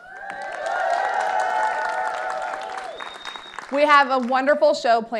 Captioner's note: audience applauding